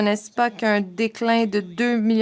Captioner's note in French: voix de l'interprète